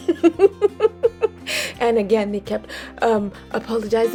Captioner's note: laughs